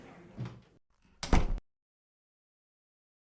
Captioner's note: door shutting